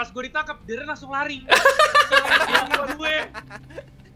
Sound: laugh

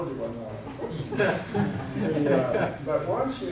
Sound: audience laughing

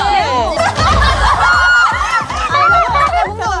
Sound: crack up

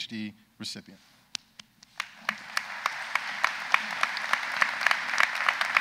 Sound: audience applauds

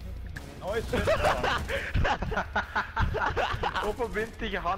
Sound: laughter

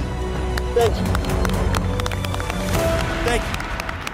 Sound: everyone clapping

